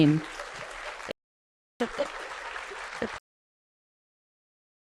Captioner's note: audience applauding